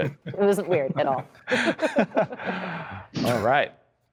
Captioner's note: laughter